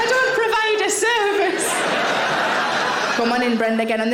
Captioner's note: audience laughing